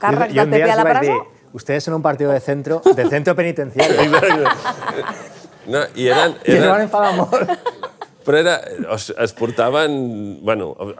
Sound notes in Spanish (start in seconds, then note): 3.8 risas